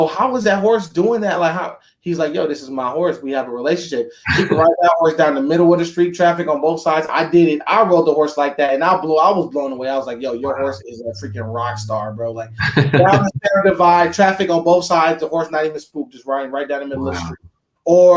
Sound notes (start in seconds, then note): 4.2 chuckles; 12.2 chuckles